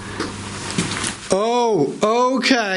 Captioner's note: soft taps